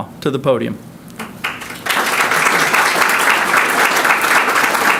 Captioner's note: audience clapping